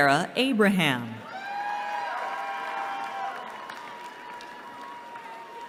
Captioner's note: cheering